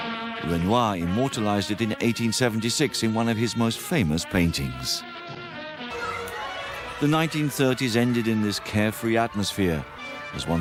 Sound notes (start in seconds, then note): 5.9 children shouting